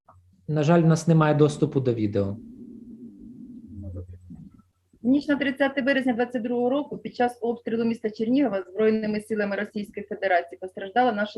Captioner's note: foreign Language